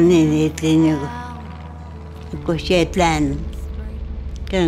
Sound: speaks other language: English translation on screen

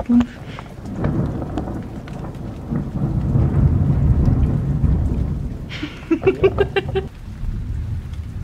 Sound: thundering

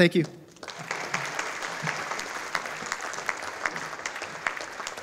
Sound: audience applauding

